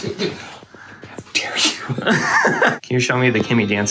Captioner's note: squeals to the brim with girlish glee